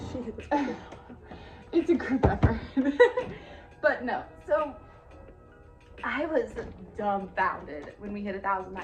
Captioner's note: chuckle